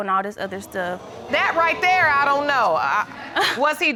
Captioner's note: audience exclaiming